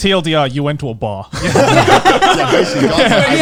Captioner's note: all laughing